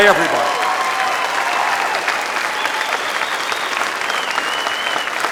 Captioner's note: applause and whistles